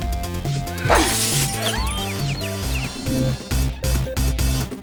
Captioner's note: fast music; glass breaking